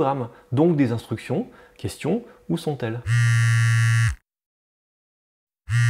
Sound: phone vibrating; phone vibrating again

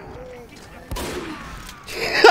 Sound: guns firing; laughing

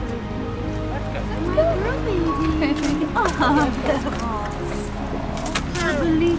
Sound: laughter

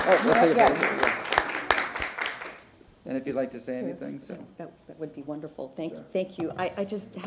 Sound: applause

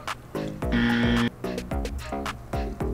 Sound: buzzer

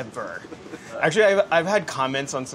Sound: laughing

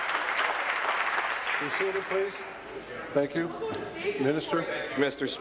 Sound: applause

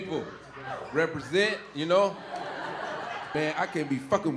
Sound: audience laughing

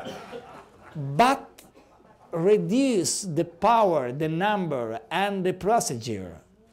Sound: laughter

